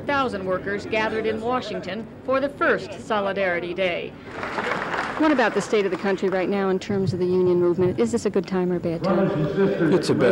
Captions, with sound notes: when over 400,000 workers gathered in Washington for the first Solidarity Day. (applause) What about the state of the country right now in terms of the union movement, is this a good time or a bad time? - Brothers and sisters--